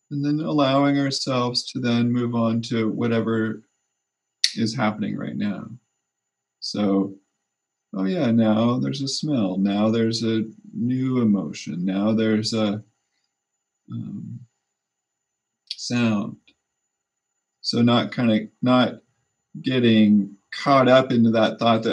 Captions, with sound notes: and then allowing ourselves to then move on to whatever is happening (snap) right now. So, oh, yeah. Now there's a smell. Now, there's a new emotion. Now, there's a sound. So, not, kind of, not getting caught up into that thought